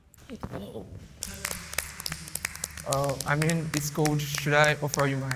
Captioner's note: clapping